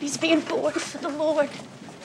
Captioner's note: none